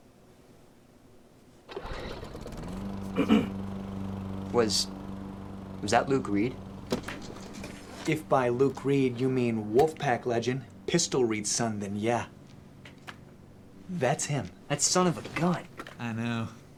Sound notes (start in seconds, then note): 1.3 lawnmower revving in the distance; 3.1 clears throat